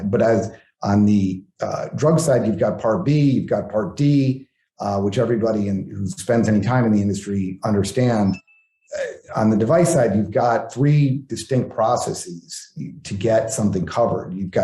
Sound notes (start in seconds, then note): 8.3 bell dings